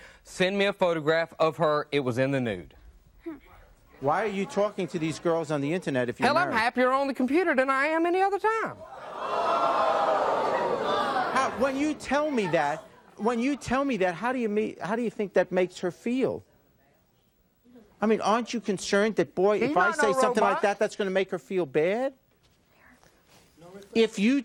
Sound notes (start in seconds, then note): 8.8 audience gasping